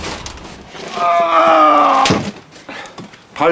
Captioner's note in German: Er ächzt